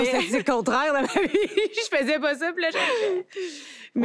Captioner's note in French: rires